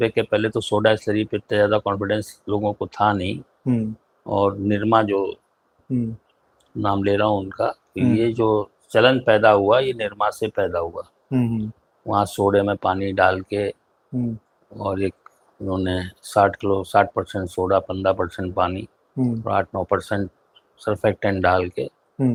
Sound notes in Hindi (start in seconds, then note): 8.1 गला साफ़ करने की आवाज़